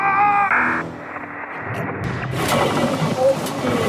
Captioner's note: static; thud